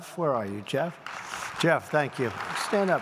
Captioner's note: applause